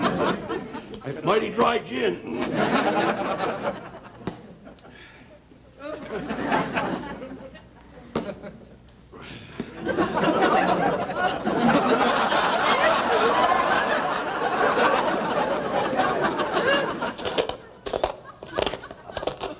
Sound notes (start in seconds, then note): 7.6 audience laughter; 14.9 loud crunching